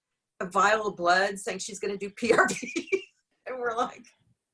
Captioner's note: laughs